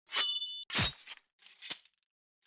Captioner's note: sword slashing